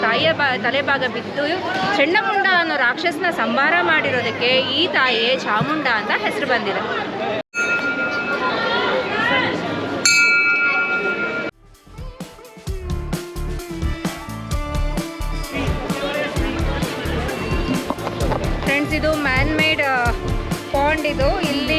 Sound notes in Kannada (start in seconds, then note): 10.0 ಗಂಟೆ